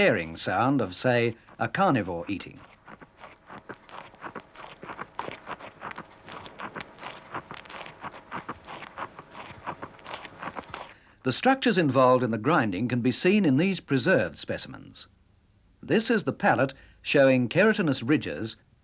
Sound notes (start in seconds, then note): 2.6 crunching noise